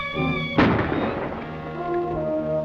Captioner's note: gunshot